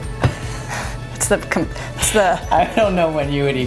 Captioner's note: laughs